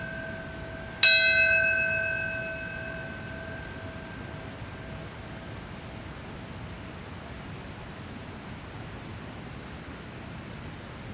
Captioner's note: bell ringing